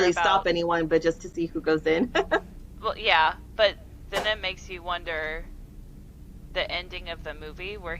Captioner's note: laughter